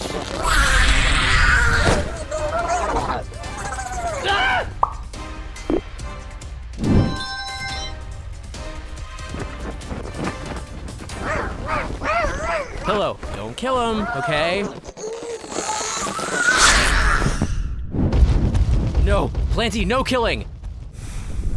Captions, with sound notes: [SNARL] [MUFFLED GROWLING] AHHHH! [MUFFLED GROWLING] Pillow–don’t kill him, OK?! NO–PLANTY, NO KILLING!